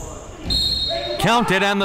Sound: whistle

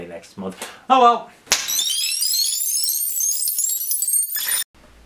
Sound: tape whirring

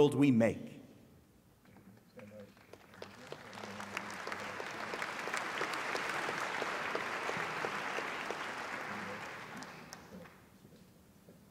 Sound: applause

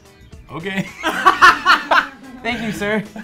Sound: laughs

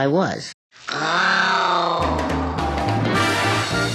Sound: purrs seductively; upbeat big-band music

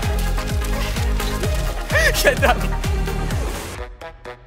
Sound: laughing; upbeat music

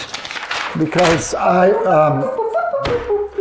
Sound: box beeping

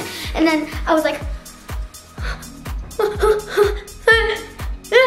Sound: pain cries

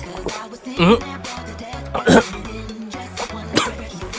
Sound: chokes

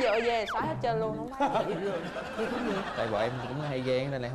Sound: laughing

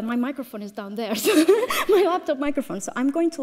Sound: laughs

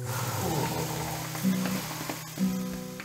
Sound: grunting

